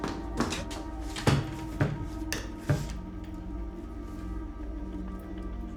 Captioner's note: dresser clattering; footsteps plodding